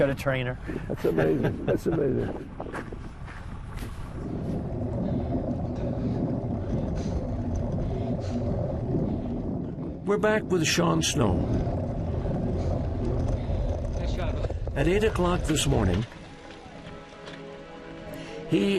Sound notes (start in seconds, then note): 3.5 wind blowing; 7.2 breathing deeply; 17.0 soft music